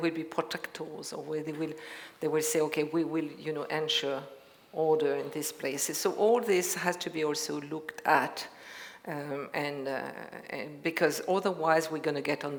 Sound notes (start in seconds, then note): none